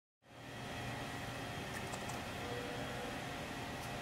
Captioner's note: machine whirs